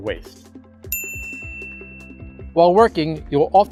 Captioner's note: bell dings